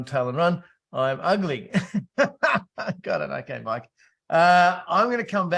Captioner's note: laughs